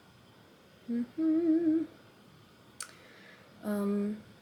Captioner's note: humming